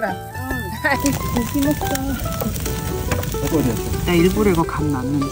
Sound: sizzling

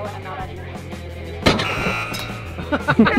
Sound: buzzer

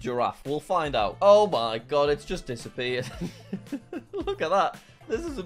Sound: laughing

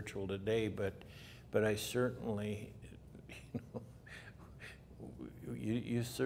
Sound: laughs

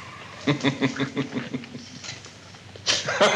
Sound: laughs

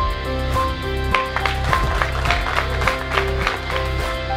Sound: applauding

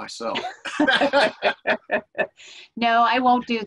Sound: laughter

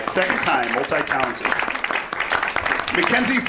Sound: audience applauds

